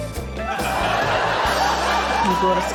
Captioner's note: laughter